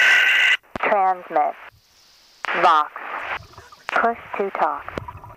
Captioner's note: computerized Voice